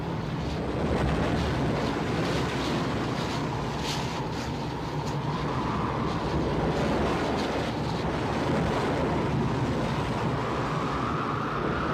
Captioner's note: wind & waves